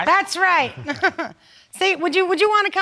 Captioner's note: chuckles